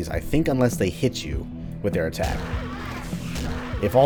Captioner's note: crowbar whacking